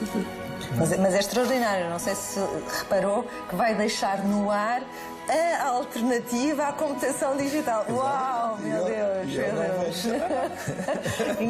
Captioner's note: laughs